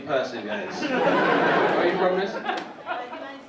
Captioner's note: audience laughing